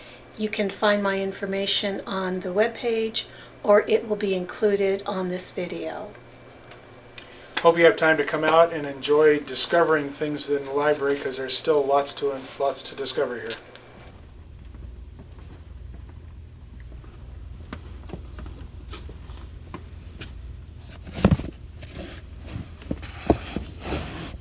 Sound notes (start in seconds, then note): 14.5 footsteps; 20.7 books shifting